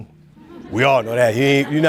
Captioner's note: audience chuckling